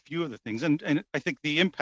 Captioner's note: chuckles